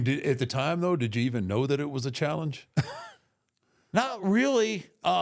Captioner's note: chuckles